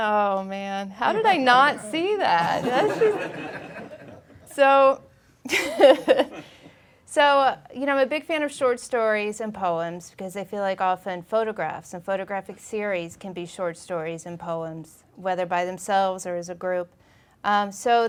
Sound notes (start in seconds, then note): 2.8 audience laughing; 5.5 laughing